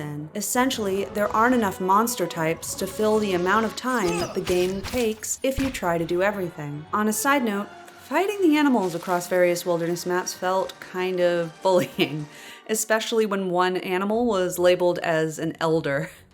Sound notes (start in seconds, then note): 11.8 laughs